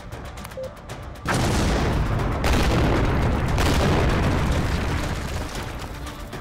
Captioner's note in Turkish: Patlama Sesi